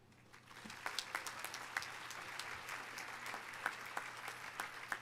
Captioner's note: audience applauding